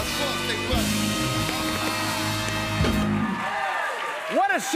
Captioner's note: cheers and applause